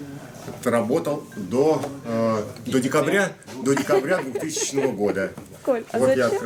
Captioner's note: laughter